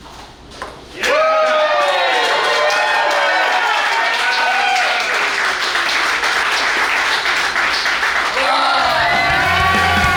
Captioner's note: cheering & Clapping